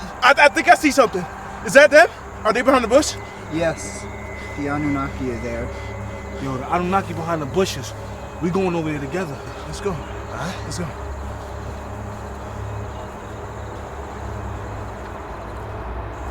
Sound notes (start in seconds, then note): 11.8 wind whooshes